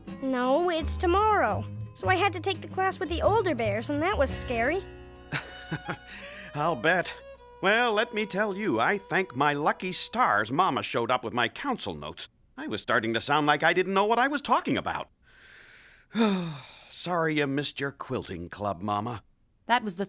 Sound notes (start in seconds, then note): 5.3 chuckling; 16.0 sighing